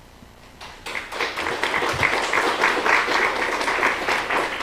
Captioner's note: applause